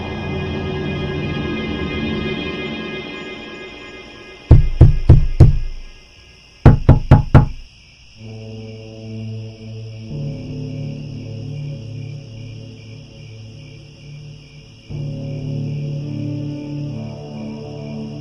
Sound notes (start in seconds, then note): 0.0 eerie music, crickets; 4.0 knock on window, eerie music, crickets; 7.6 eerie music, crickets